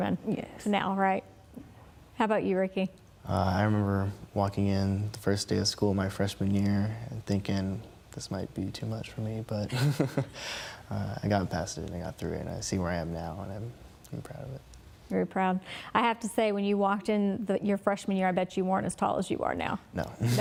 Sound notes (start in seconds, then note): 9.7 laughing; 20.2 laughing